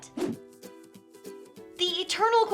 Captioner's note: lively music; screen whooshing